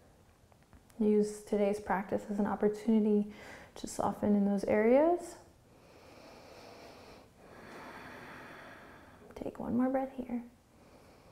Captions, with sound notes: Use today's practice as an opportunity to soften in those areas. (deep breathing) Take one more breath here.